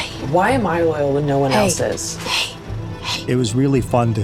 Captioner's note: whispers